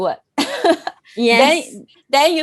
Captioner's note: laughs